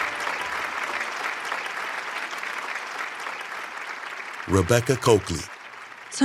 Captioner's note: audience clapping